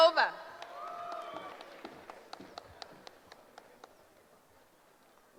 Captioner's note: applause